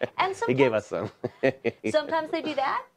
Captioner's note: laughing